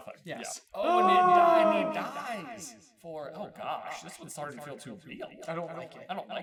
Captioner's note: echoey and ethereal